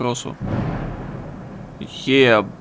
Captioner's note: loud as hell thunder noises